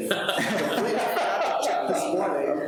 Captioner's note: people laughing